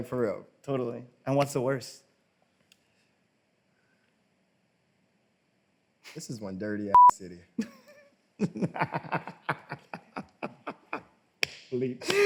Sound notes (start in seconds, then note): 6.9 beeps; 8.4 laughs